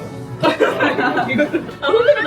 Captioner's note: laughter